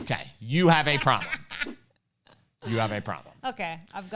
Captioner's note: laughs